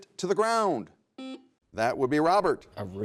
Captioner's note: buzzer buzzes